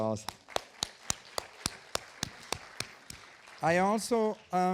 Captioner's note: audience applauding